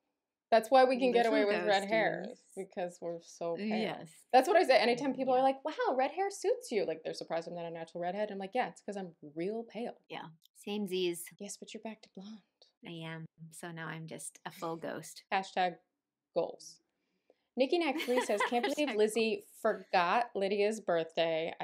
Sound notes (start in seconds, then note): 17.9 laughter